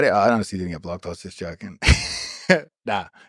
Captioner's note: Craig laughs